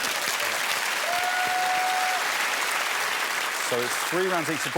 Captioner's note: cheers and applause